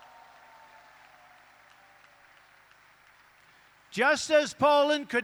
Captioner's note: applause